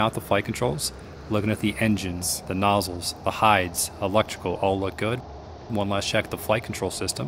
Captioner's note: hydraulics